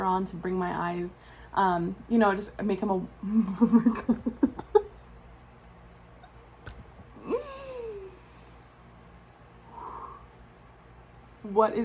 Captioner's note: laughs